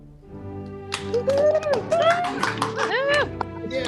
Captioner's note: applauding